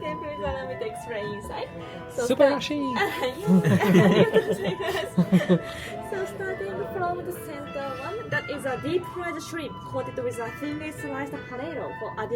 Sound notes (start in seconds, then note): 2.1 speaking Japanese